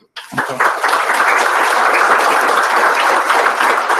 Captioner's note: applause